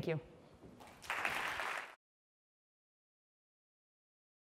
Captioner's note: applause